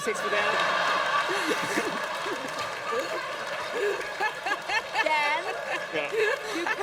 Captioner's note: laughter